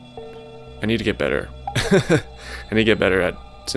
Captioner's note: laughs